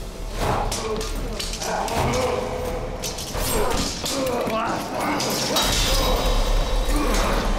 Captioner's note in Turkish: Dövüş sesleri